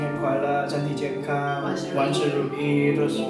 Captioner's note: in Mandarin